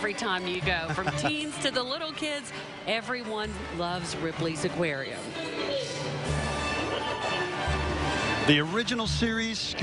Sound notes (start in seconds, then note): 2.4 laughing; 8.5 holiday music